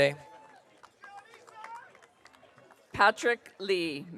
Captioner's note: audience cheering